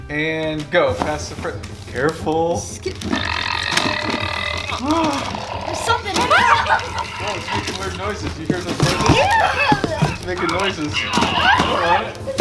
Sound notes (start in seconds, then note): 3.3 present growls; 6.6 yell